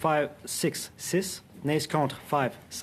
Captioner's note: speaking French